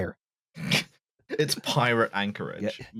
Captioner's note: laughs